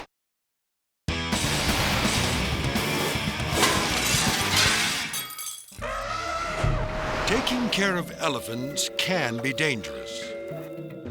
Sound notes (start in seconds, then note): 1.1 upbeat music; 5.8 elephant trumpets